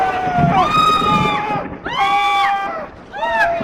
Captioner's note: group screaming